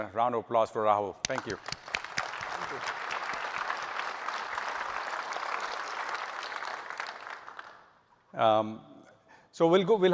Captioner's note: applause